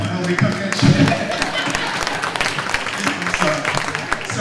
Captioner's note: clapping